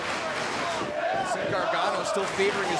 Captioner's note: crowd cheering